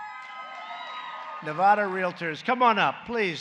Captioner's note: applause